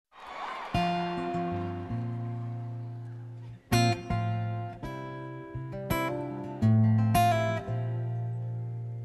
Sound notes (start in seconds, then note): 0.0 gentle music; 0.1 audience cheers and claps